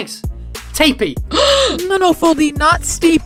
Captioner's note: gasp!